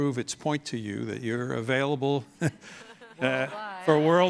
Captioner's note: audience and guests laughing; laughs